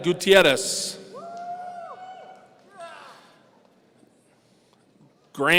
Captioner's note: audience cheering